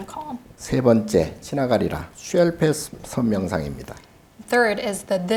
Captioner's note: speaking Korean